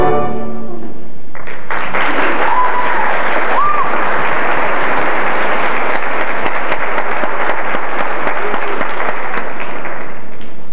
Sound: applause

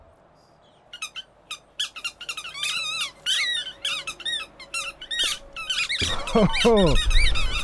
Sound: Rat King squeaking

